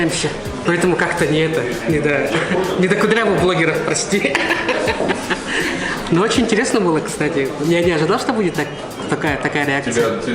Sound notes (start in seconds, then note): 4.5 ha-ha